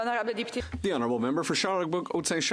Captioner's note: speaking Alternate Language